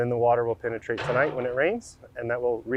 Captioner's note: excavator arm crashing